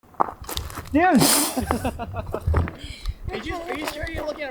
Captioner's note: group laughing